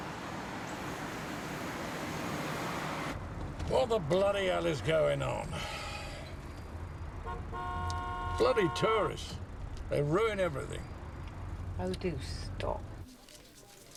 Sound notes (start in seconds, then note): 0.8 engine rumbling; 5.4 sighs; 7.2 horn honking